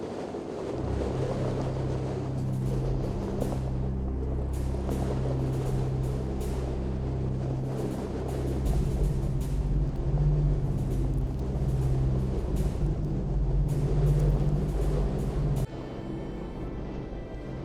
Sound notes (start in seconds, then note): 8.1 uneasy music continues; 11.7 wind blowing